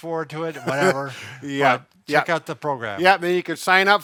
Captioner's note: chuckles